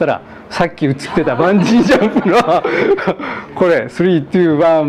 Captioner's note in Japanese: 笑い